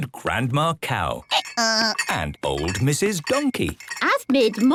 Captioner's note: braying